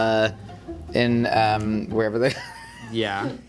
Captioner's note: laughing